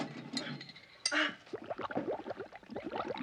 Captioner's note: water bubbling